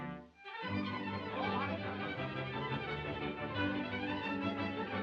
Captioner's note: clamoring